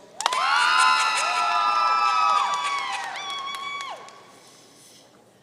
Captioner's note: audience cheering and applauding